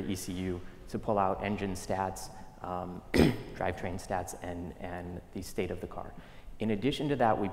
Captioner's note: cough